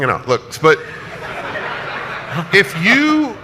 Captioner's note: audience laughs